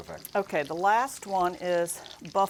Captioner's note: sizzling sound effect